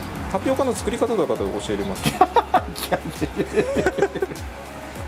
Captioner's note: laughs